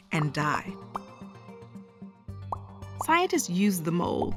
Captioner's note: popping